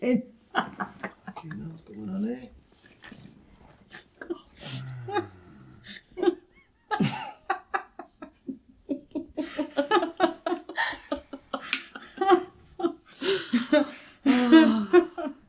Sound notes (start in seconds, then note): 1.0 laughing